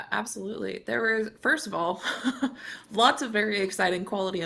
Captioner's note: chuckles